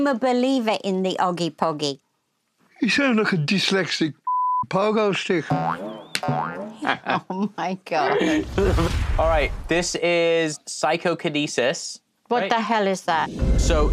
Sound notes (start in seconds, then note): 6.4 laughs